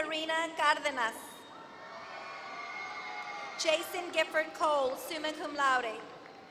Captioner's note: applause